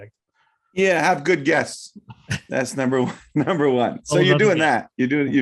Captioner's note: laughing